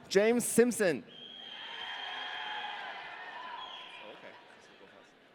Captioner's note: audience cheering